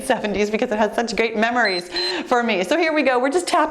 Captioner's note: timer beeps